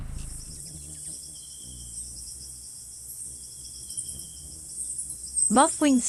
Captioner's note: bird's wing flapping; buzzing; birds chirping and singing